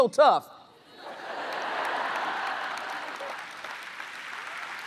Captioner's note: audience laughs; audience applauds